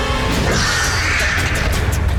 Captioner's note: screeching